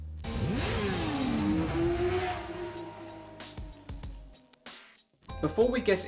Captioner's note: upbeat music; motorbike engine roaring